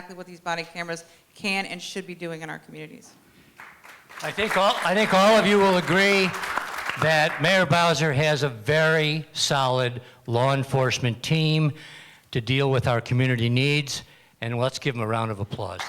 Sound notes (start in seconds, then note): 3.5 applause